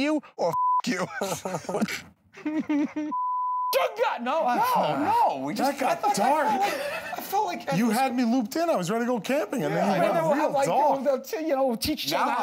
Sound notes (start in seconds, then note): 0.8 laughs; 3.2 shouts incoherently